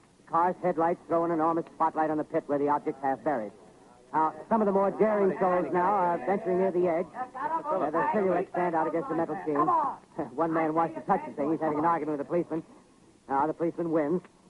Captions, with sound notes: Cars' headlights throw an enormous spotlight on the pit where the object's half buried. Some of the more daring souls now are venturing near the edge. (people yelling) Their silhouettes stand out against the metal sheen. One man wants to touch the thing. He's having an argument with a policeman. The policeman wins.